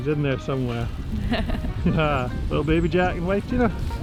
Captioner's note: laughing